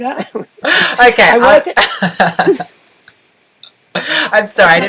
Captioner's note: laughs; laughs